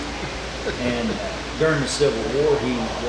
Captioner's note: laughing